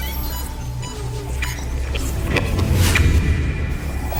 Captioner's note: computer beeps